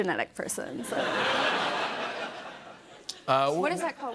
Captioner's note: laughter